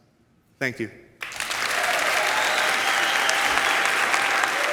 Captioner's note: audience applauds